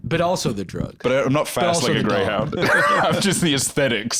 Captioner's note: laughs